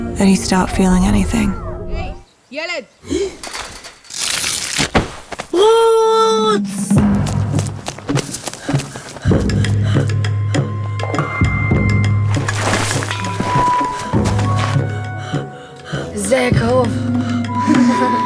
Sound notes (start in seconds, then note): 2.6 boys speaking in foreign language; 4.0 skin scraping; 6.4 tense expectant music; 7.2 boys panting; 16.2 boy speaking in foreign language